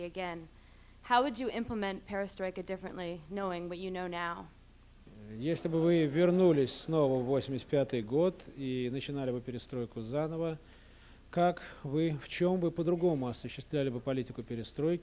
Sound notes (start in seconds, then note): 6.0 non-english speech